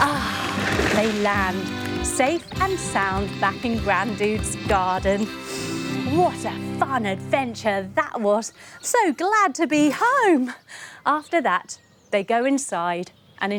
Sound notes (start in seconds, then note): 0.0 sighing; 5.2 inhaling